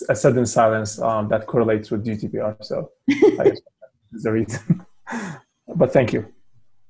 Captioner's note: laugh